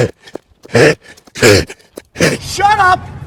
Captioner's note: labored breathing